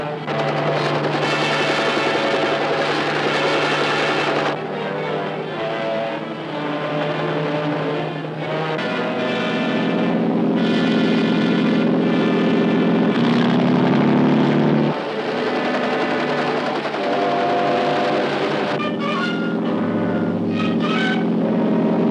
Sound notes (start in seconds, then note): 0.3 helicopter whirring; 9.5 motor roaring; 15.4 helicopter whirring; 19.3 motor roaring